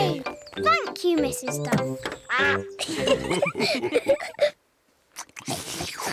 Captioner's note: all laugh; all munch